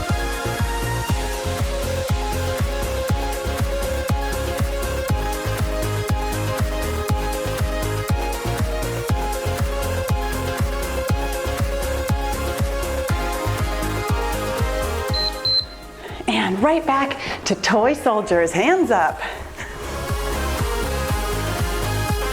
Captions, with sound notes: (timer beeps) And right back to toy soldiers, hands up. (cheerful music)